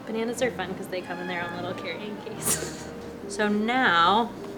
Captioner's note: laughs